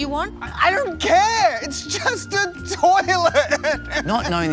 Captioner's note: sobs